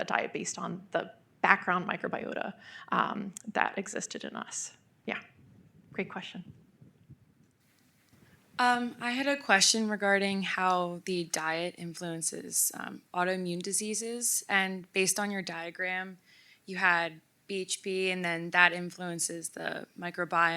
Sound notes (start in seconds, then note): none